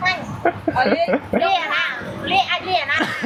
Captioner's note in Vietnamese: tiếng cười